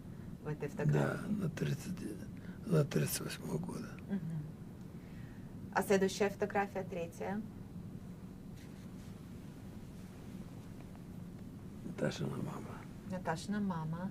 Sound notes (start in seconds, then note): 5.6 mumbling